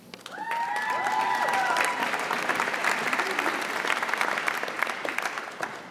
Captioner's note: audience cheering and applauding